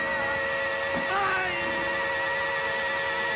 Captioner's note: cries out